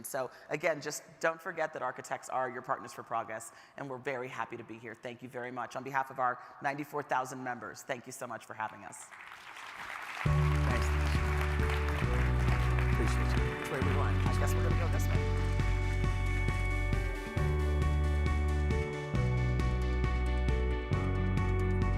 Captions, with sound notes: So again, just don't forget that architects are your partners for progress. And we're very happy to be here. Thank you very much, on behalf of our 94,000 members, thank you so much for having us. (audience applauding) (upbeat music) - Appreciate you. - Which way? - I guess we go this way. (upbeat music)